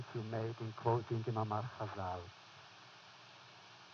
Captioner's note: foreign language